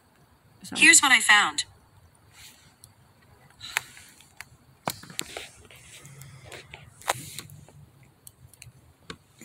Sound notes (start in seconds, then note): 4.8 the phone moving around